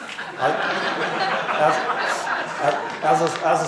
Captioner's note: laughs